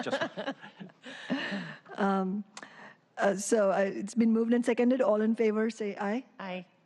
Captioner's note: laughter